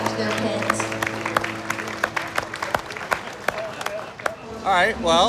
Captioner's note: applause